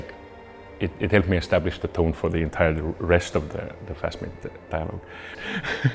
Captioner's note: chuckles